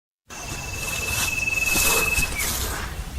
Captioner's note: footsteps